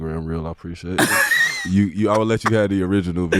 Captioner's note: laughing